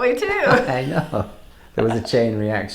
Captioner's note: laughing